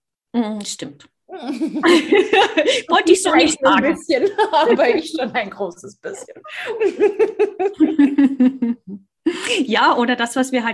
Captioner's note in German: lachen; lachen